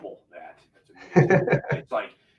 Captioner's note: voice muffling; laughing